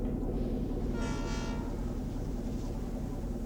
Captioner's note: train whistle blowing